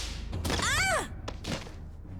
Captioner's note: grunt of effort